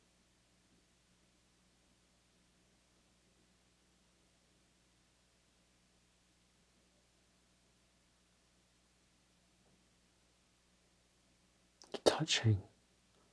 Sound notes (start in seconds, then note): 0.0 silence